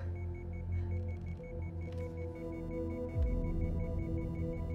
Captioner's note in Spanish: El pitido se vuelve más rápido